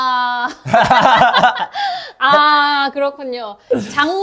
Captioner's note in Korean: 탄식